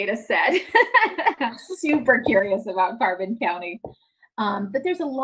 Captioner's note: laughs